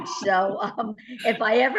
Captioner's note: laughter